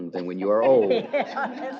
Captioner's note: laughter